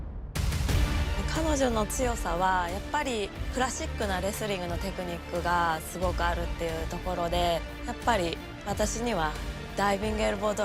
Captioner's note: speaking japanese